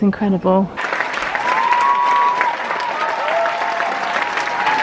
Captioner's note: audience applauds